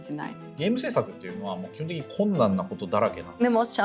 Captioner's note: non-english speech